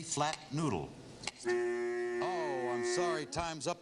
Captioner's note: buzzer